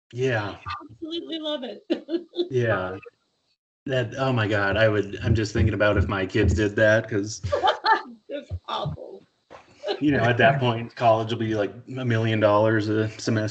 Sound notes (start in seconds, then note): 6.6 laughing